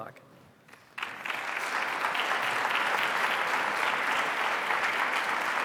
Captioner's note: attendees clapping